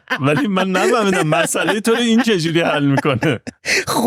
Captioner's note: laughs